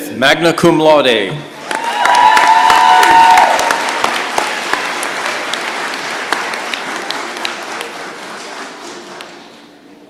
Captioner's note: cheering and applause